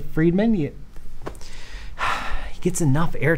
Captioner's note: sighs